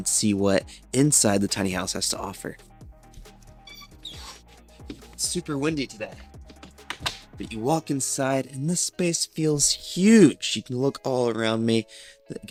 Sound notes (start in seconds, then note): 3.6 door squeaks